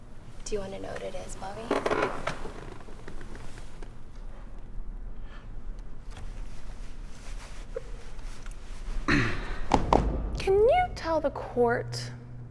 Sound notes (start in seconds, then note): 9.0 Bob clears throat; 9.5 Law & Order-esque transition sound